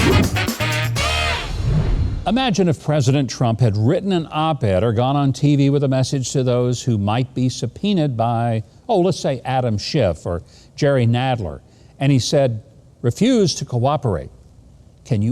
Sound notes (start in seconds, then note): 0.0 upbeat jazz music; 1.4 whooshing